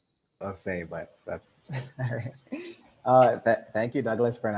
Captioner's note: laughs